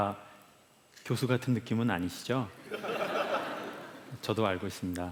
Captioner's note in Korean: 웃음